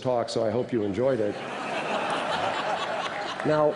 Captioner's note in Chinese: 笑聲